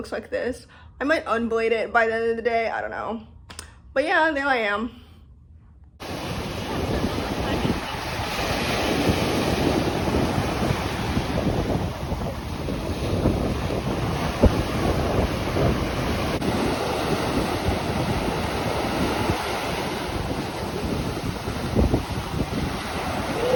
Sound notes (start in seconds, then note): 7.9 ocean waves; 7.9 more ocean waves